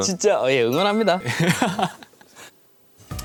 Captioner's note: haha